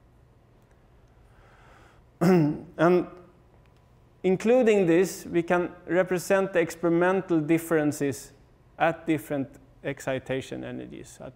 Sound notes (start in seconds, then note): 2.2 cough